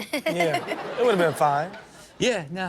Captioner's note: audience laughs